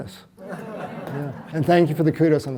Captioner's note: audience laughs